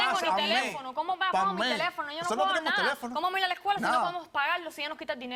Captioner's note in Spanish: Hablan al unísono